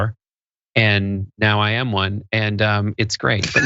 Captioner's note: laugh